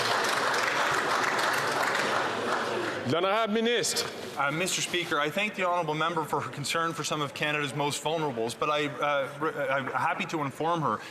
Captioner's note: some Applause